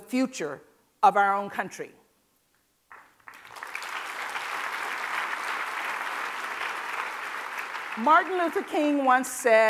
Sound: applause

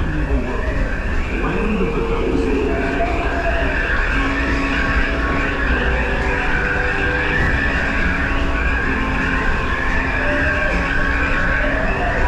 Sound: croaking/chirping sounds, animal sounds

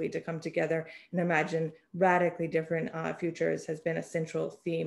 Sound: none

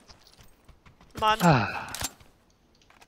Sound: sighs

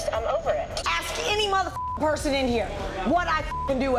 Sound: beep

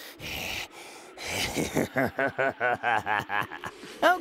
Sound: more creepy laughter

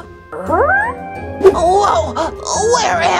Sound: confused whimpering

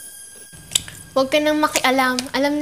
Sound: clicks tongue

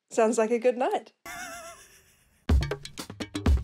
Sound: laughs

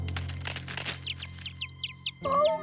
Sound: chirping

